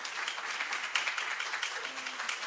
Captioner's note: applause